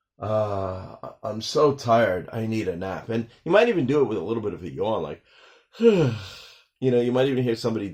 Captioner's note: sigh; sigh